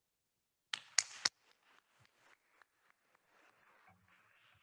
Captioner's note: attendees applauding